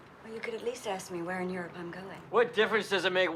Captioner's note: none